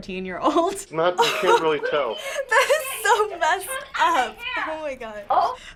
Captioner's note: laughing